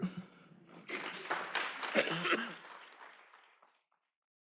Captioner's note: applause